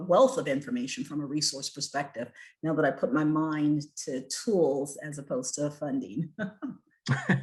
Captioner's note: chuckles